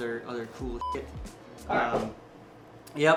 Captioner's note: beep